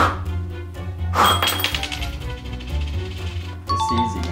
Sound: blowing and coin clattering; chimes

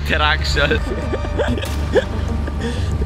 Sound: laughter

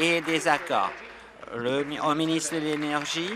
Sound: applause

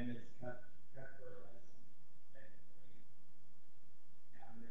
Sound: voice muffled

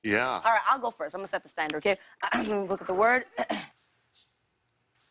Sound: clears throat

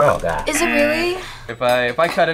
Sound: buzzer

